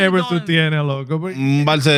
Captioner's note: speaking In Foreign Language